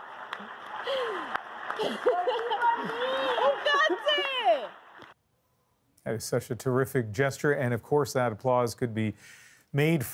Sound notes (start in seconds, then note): 1.7 laughter